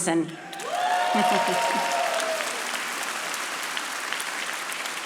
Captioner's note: audience applauding